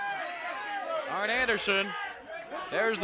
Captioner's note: crowd chatter